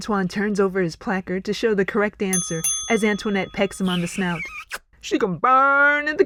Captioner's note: ding-ding